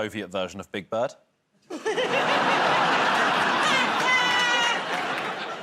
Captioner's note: laughter